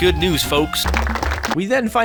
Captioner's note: even more applause